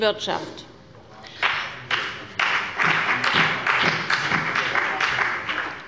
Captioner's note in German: Beifall bei Abgeordneten der CDU und des BÜNDNISSES 90/DIE GRÜNEN